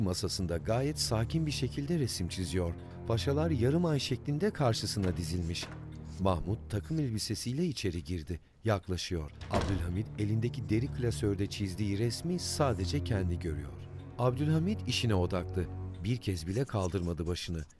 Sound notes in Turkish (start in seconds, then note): 0.0 Müzik - Gerilim; 0.3 Yazı yazma sesi; 4.7 Kapı açılma sesi; 9.2 Kapı kapanma sesi; 9.3 Müzik - Gerilim; 10.8 Yazı yazma sesi